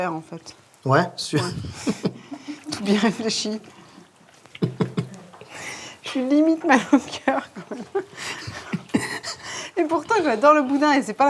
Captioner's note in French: rires